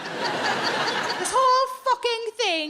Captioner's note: audience laughing